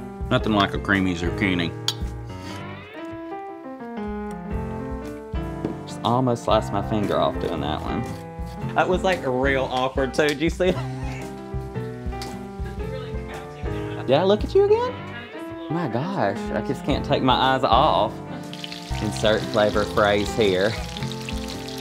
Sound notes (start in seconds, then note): 10.7 laughing; 12.5 off-camera chatter